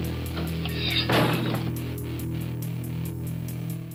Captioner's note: blade chops